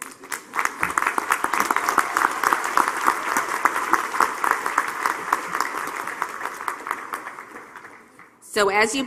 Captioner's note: applause